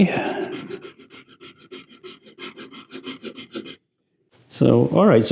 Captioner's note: file grinding